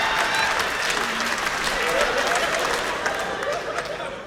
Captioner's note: laughter